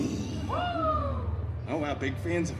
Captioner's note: guests cheering